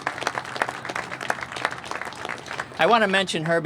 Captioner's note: applause